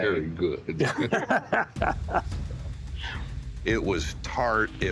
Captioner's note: both laughing